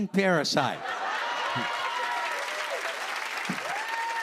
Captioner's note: laughter; cheers and applause